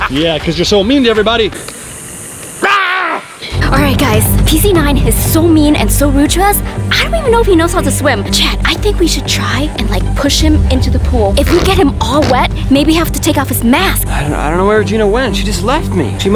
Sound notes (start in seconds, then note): 2.6 screaming